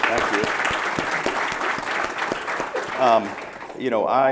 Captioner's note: applause